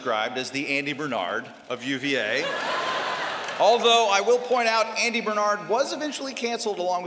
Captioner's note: laughter